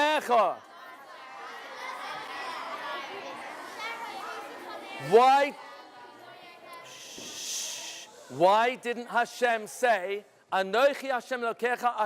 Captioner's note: crowd humming